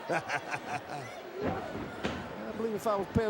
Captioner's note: Jim cackling